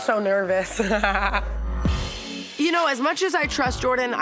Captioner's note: laughs nervously